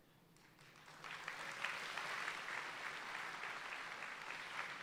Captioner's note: audience applauding